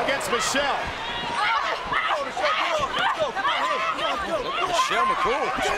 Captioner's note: crowd clamoring and clapping